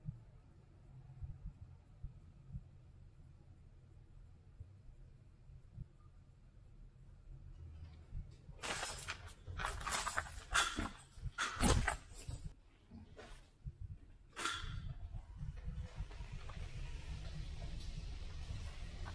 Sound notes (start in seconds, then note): 8.6 chains rustles; 15.3 wheel sweeps